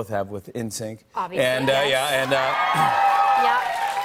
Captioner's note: cheers and applause